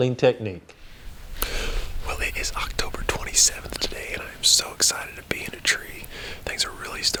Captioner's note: whispering